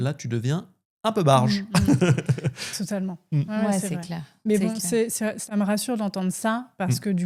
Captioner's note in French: rires